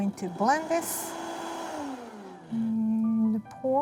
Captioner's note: blender running